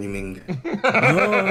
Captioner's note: laugh